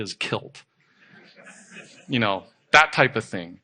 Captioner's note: audience laughing